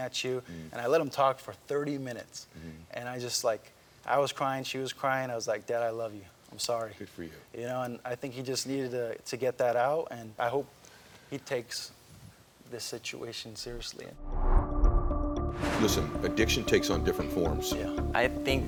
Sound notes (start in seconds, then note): 14.1 graphic whooshes; 14.2 suspenseful music